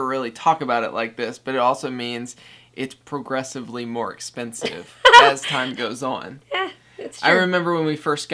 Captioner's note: laughs